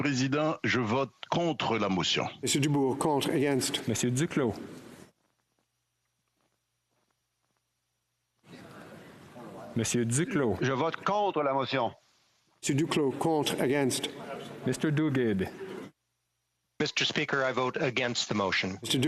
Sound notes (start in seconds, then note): 15.4 speaking French